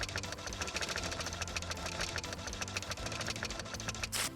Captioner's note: printer buzzing